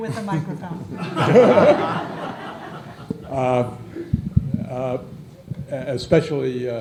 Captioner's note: laughter